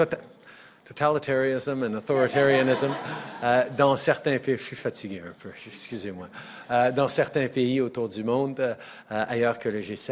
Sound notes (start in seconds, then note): 2.2 laughter